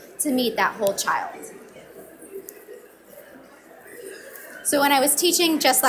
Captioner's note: audience mumbling